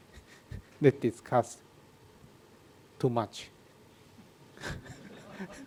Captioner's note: laughs